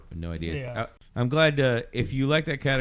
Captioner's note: uh